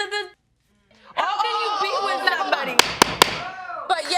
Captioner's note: gavel pounding